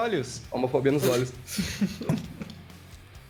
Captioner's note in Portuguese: Risadas